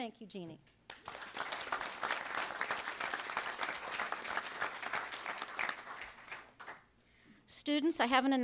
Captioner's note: audience applause